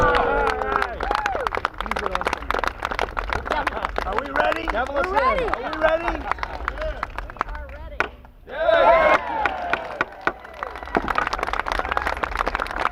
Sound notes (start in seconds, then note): 0.0 applause; 7.7 gavel pounding; 9.0 applause